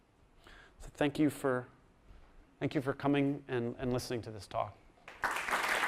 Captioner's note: applause